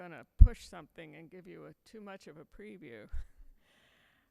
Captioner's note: chuckles